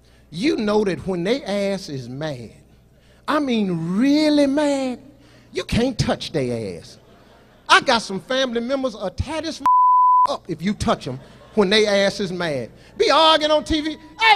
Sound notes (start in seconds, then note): 9.6 beep